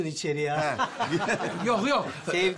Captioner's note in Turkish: Gülme sesleri